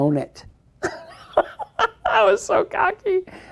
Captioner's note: laughs